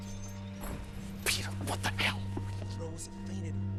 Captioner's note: whispering